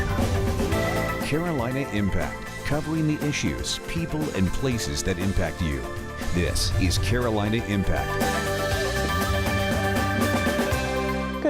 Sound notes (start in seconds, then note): 1.6 voiceover; 8.2 upbeat music